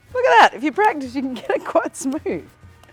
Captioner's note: laughing